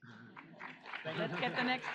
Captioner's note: audience applauds